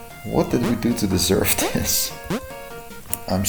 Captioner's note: chuckling